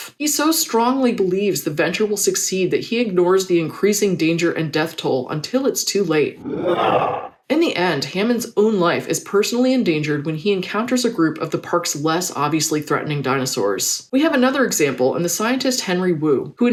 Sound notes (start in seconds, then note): 6.4 roar